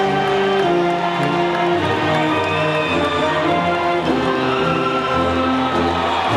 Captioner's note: attendees applauding and whistling